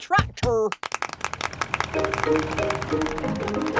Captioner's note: clapping